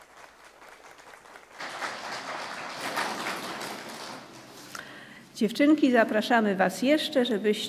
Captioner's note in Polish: Aplauz